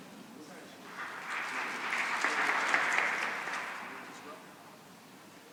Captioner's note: applause